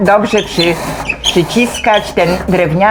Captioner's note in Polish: skrzypienie